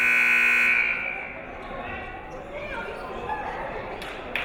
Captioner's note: siren buzzing